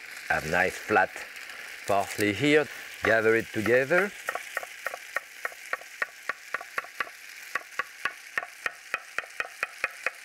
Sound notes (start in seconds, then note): 5.2 tomatoes sizzling